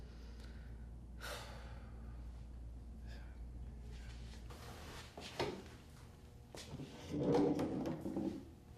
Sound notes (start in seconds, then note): 0.9 sighing